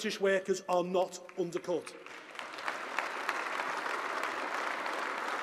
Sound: applause

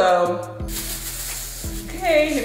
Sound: plastic rustling

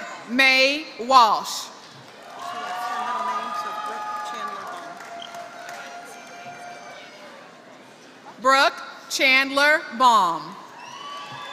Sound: applause; applause

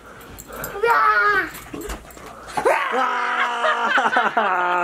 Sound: screeching

